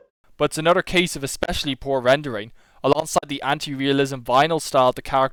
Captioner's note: none